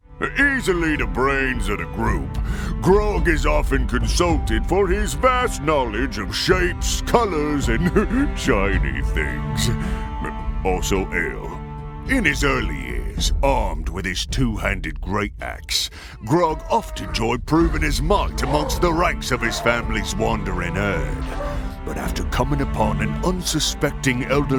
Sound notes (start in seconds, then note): 7.8 chuckle